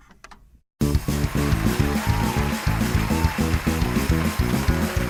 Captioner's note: cheering and clapping